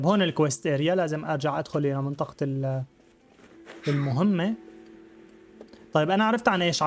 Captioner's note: grunting; gentle music